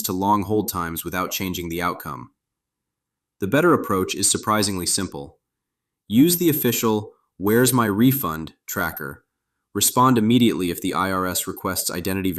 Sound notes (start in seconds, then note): 2.9 thoughtful